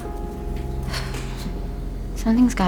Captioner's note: sighs